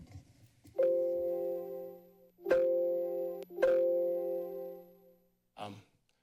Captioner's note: notification sound